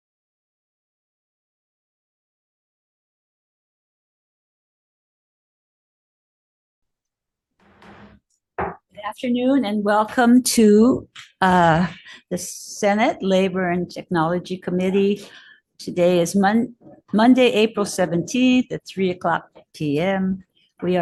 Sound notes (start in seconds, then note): 7.6 gavel banging